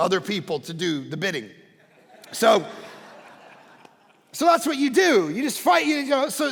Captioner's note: congregation laughing